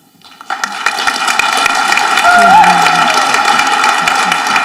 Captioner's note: audience applauding